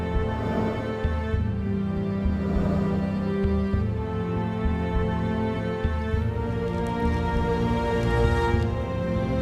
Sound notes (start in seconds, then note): 2.7 footsteps